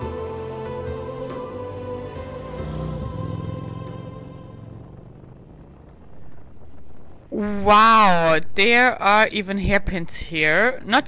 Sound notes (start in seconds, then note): 2.8 motorbike roaring